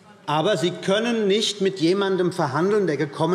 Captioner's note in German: none